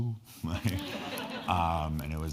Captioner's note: all laughing